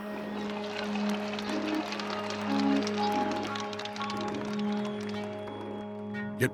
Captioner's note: cheers and applause